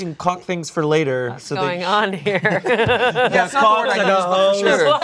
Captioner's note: laughs